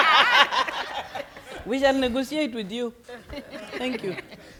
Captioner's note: attendants laughing loudly; attendants laughing